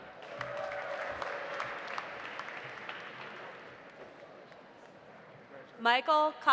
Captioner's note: audience applauding; audience cheering